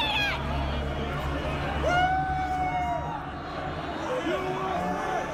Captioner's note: cheering and chanting